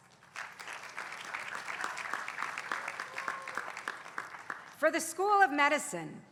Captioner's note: applause